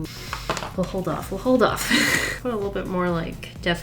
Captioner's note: laughs